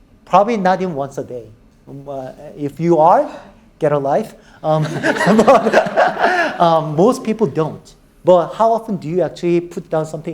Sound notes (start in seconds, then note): 4.8 audience laughing